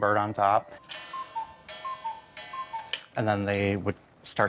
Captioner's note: clock coos